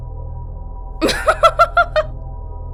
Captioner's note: laughs